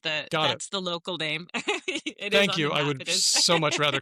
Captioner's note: laughs